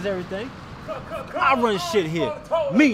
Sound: Red yells angrily

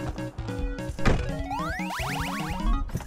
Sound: car door shuts

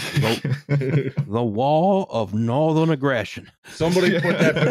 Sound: with a drawl; laughter

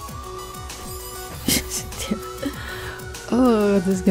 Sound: laughs

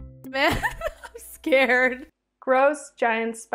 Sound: laughs

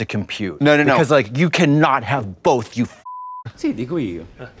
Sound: beep

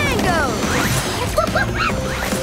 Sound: chattering

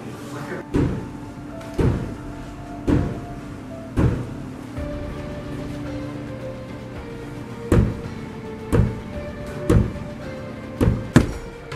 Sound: knocking

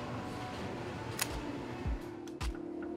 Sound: snap!

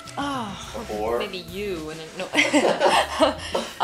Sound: voiceover; laughs

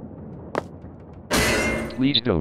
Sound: step

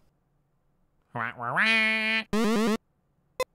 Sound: commanding squawk

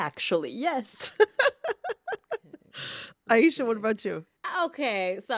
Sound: laughter

